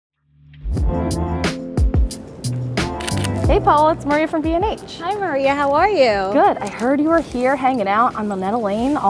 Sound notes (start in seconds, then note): 0.0 camera shutter clicks; 0.9 upbeat piano music